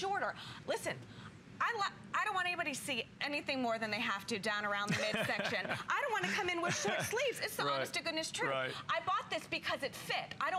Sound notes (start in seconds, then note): 4.8 laughter